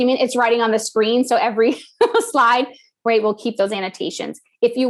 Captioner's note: laugh